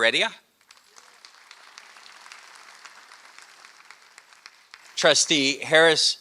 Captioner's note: applause